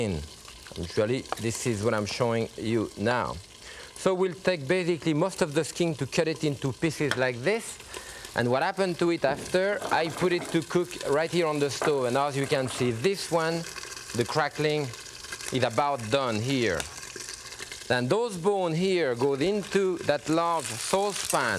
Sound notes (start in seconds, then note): 16.2 chicken skin sputtering